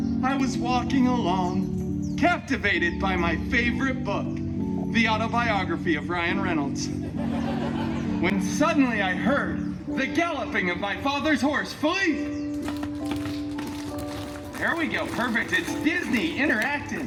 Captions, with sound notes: I was walking along, captivated by my favorite book, the Autobiography of Ryan Reynolds, [guests chuckling] when suddenly I heard, the galloping of my father’s horse, Philippe! [galloping sounds] There we go. Perfect. It’s Disney. Interactive.